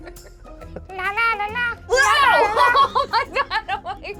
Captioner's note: laughs